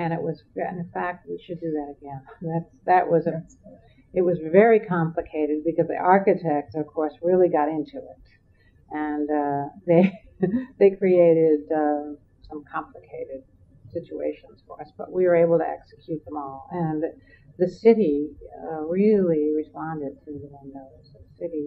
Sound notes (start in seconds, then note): 11.3 laughs